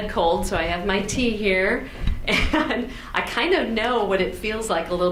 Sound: laughs

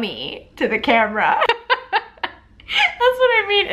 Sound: laughing

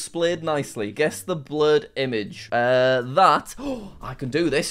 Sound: gasps

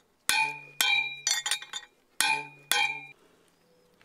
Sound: clanging

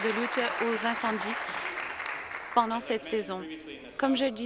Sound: applause

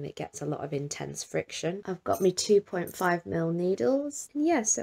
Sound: needles clink

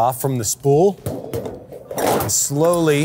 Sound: sheet clanging

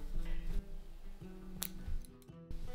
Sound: another snip

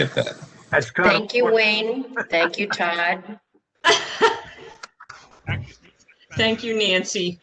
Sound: laughter

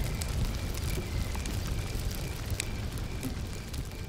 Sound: nature sounds behind fire crackle

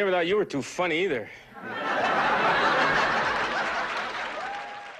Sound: laughter

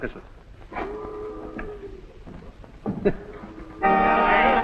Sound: boat whistles - chuckles; accordion music and ambient of the crew

